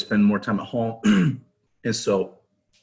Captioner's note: ahem sound